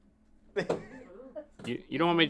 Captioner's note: laughing